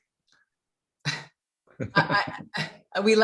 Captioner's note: laughter